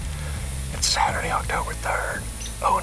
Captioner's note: whispering